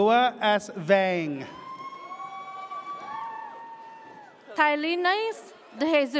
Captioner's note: audience cheers